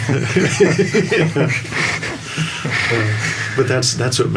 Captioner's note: all laughing